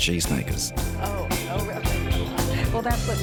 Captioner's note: both laugh